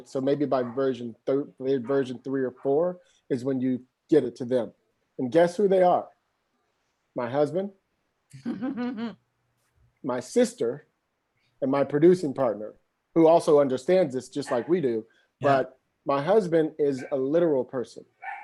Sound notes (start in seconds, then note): 8.2 chuckles